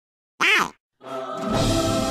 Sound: quack

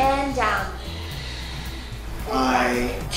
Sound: breathes

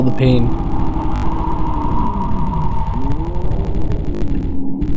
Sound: virus thumping and roaring

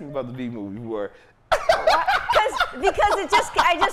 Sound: laughing

